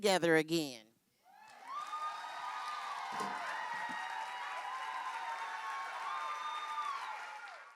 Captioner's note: cheering and applause